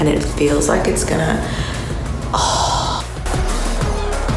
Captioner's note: exhales; upbeat pop music